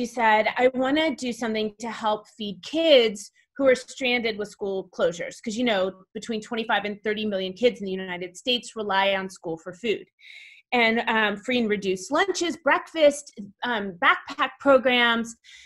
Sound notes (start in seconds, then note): none